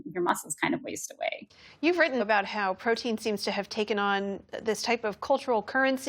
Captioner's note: voice-over